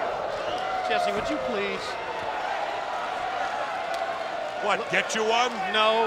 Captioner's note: footsteps plodding